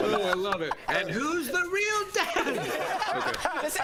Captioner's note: laughter